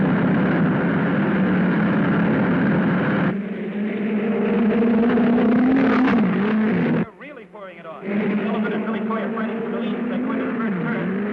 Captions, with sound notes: (cars whirring) They're really pouring it on. Sullivan and Billy Coy are fighting for the lead as they go into the first turn.